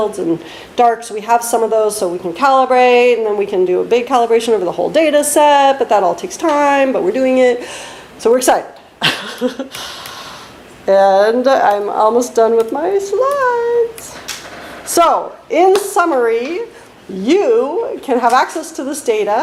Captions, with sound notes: and darks. We have some of those, so we can calibrate. And we can do a big calibration over the whole dataset, but that all takes time, but we're doing it. So, we're excited. [laughs] And, I'm almost done with my slides. So, in summary, you can have access to this data.